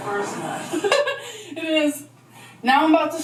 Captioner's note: laughs